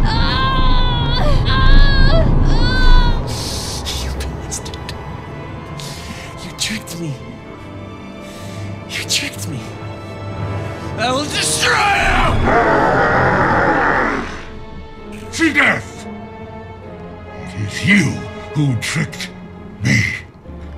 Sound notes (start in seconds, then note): 0.0 speaks in foreign language; 0.0 Vanessa groaning; 11.7 demonic growling; 15.5 speaks in foreign language